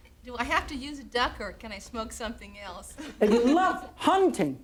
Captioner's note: chuckles